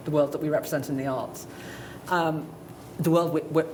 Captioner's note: none